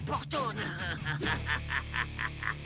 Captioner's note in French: rires